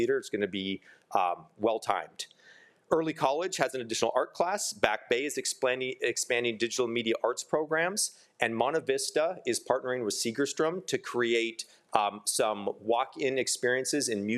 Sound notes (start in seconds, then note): none